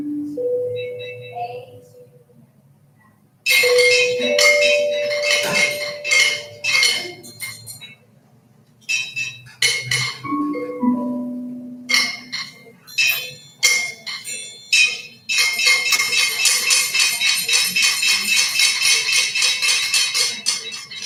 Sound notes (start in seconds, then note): 0.1 treble bell chimes; 3.5 metallic clinking; 15.6 rapid metallic clinking